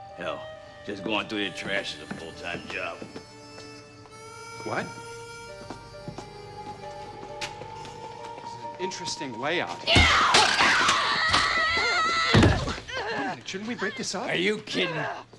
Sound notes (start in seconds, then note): 9.8 <i> woman screaming</i>